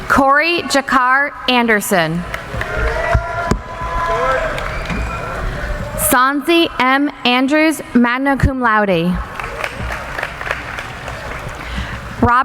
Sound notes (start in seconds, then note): 2.0 cheering; 9.2 applauding